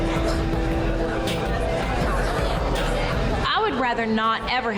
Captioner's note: girls chatting